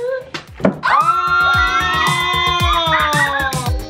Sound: everyone screaming

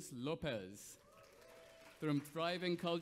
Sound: audience applauds

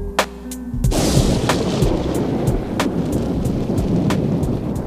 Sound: thunder crashing

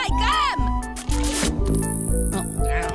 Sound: smooch

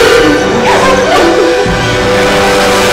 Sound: Merce sobs

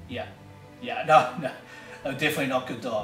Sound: laughs

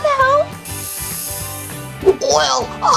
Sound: steam

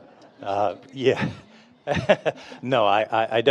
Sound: laughs; audience members laughing

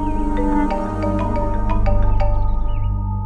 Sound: phone rings

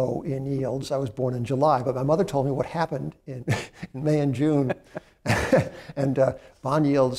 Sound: laughs

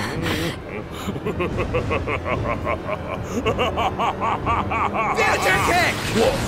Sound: evil laughter

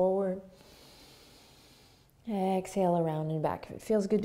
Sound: breathes deeply

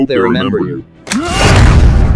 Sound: explosion

